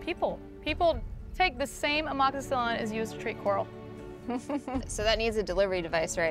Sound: delighted laugh

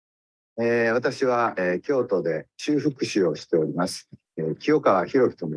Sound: speaks in Japanese

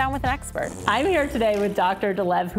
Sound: fart noise

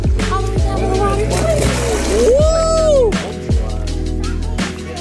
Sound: pool splash

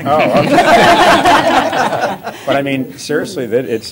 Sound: laughter

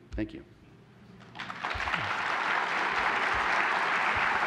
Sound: applause

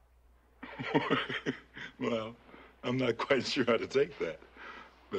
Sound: chuckles

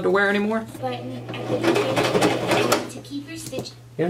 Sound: sewing machine

